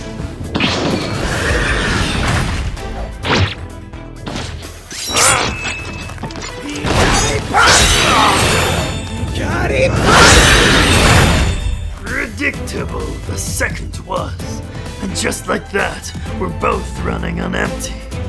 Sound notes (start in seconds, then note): 5.0 grunt; 7.1 groan